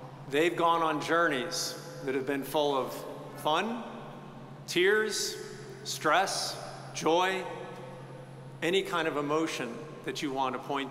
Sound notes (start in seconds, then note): none